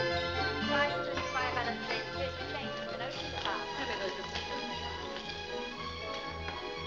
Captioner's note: upbeat music; indistinct conversation; upbeat music